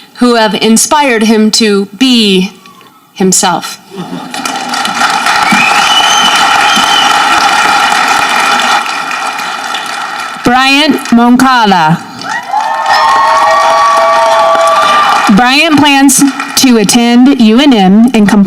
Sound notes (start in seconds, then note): 4.0 audience clapping; 12.2 audience cheering